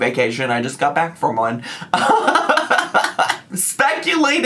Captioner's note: laughs